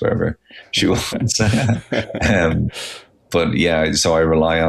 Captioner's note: everyone chuckling